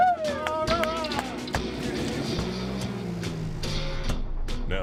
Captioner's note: clapping